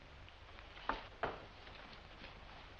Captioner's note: none